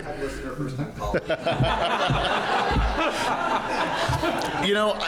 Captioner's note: laughter